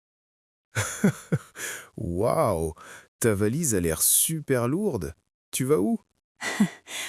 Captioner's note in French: rire; rire